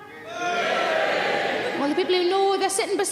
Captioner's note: audience cheering